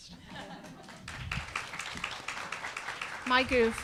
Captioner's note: attendees applauding